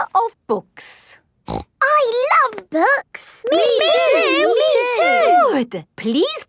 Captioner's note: snorting